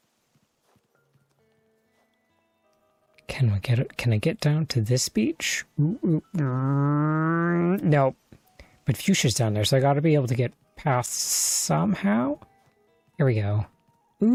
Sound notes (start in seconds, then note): 5.9 frustrated noises